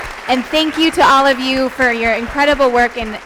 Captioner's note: applause